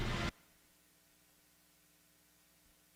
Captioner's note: silence